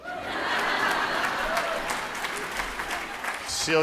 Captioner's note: laughing; applauding